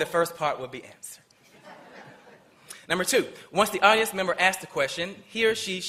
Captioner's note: laughter